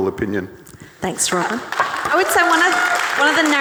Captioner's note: audience cheering